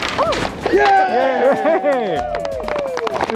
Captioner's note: crowd cheers